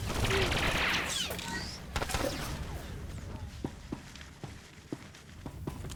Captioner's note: gunshots